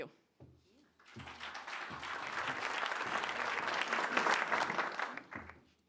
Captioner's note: applause